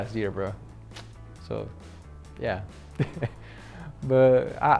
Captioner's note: chuckles